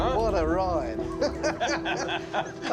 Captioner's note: all chuckling